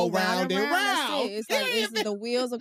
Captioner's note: laughs